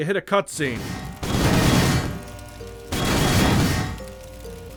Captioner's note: gun fire